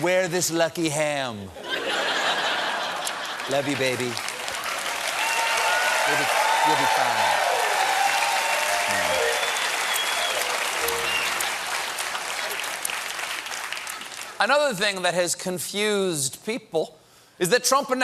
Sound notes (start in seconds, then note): 1.6 laughter; 5.4 cheers and applause